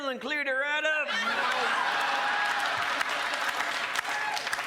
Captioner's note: crowd laughs